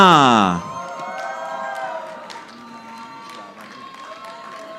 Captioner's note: audience applauding